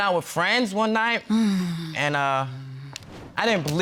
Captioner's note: sighs